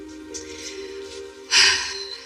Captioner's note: sighs